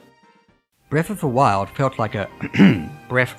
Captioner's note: ahem